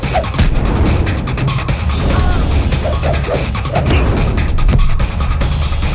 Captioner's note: air whooshing; men grunting